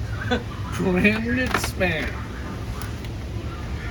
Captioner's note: laughs